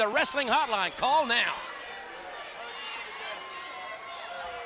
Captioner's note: crowd cheering